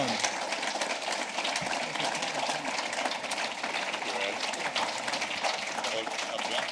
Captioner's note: applause